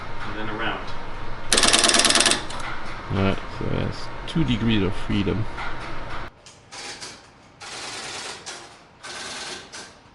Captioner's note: phone ringing